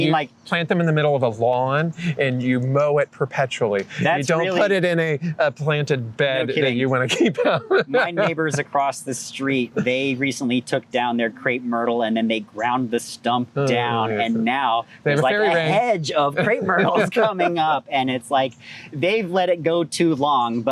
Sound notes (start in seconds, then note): 6.9 laughter